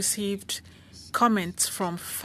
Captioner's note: speaking French